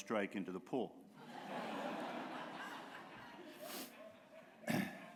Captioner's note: laughter